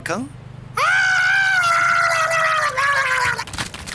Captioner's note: screaming